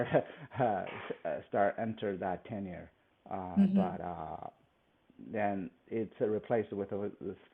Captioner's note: laughs